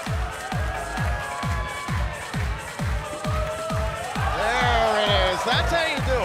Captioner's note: crowd cheering